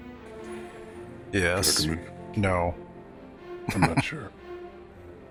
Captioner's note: chuckling